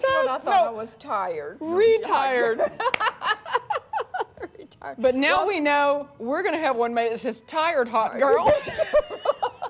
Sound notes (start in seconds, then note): 2.4 woman laughing; 8.4 women laughing